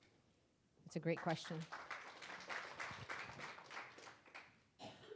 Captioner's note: audience applauding